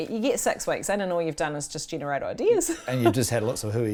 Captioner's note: laughs